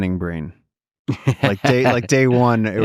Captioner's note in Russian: Лекс смеётся